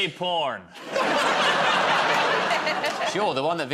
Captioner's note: laughter